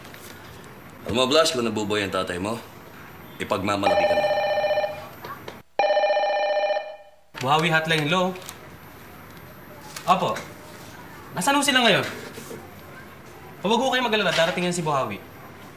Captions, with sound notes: You know, Blast, if your dad was still alive, -he’d be proud of you. -[phone rings] Buhawi hotline, hello. Yes. Where are you now? Don’t worry. Buhawi is on his way.